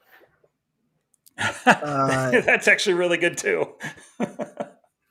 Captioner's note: laughs